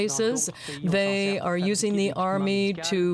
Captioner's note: speaking French